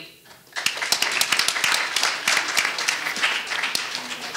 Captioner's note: audience applauding